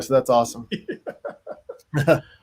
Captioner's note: laughs